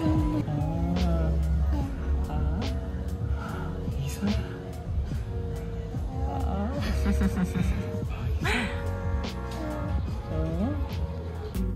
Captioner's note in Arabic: ثرثرة